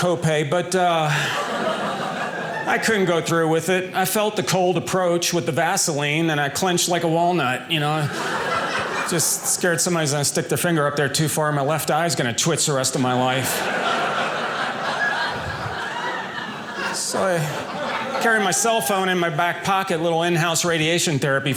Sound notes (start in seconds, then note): 12.8 audience laughing